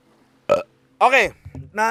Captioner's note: burps in Boholano